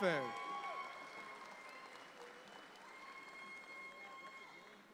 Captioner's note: audience applauds